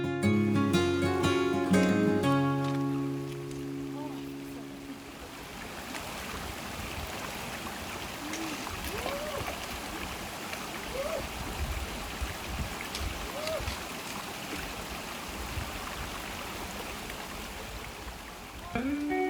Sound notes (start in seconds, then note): 4.3 water rushing